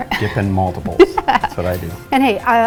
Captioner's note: laughs